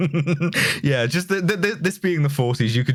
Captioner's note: laughter; much more laughter